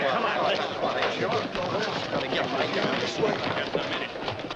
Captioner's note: crowd muttering